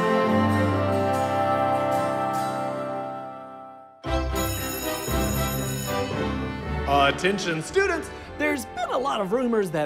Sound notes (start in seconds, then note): 4.2 school bell rings; 6.9 on PA